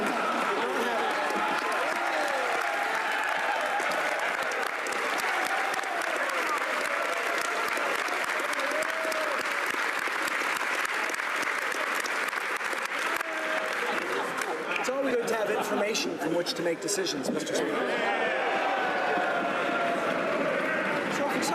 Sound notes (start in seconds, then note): 7.6 applause